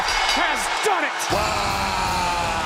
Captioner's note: bell ringing